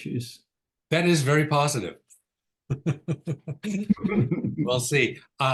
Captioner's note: laughs